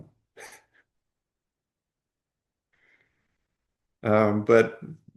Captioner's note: pause